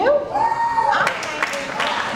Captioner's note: cheers